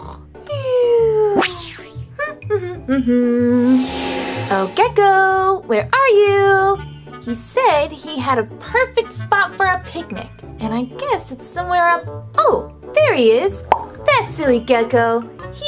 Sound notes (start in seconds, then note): 2.3 hums happily